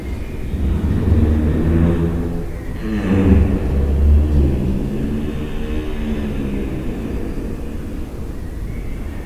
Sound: deep humming sound

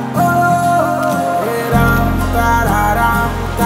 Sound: camera clicks

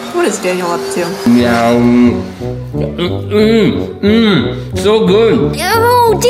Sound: loud chewing

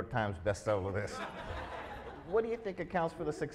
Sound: audience laughs

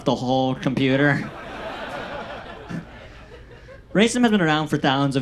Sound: audience laughs

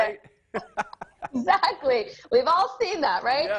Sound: laughing

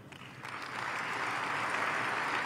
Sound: applause

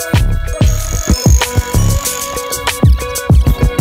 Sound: tools cranking

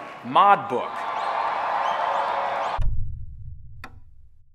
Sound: audience cheering

